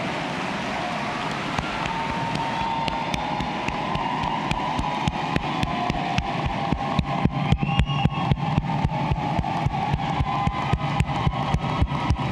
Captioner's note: applause